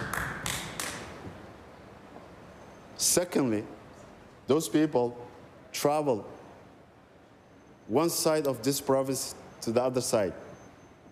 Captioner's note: applause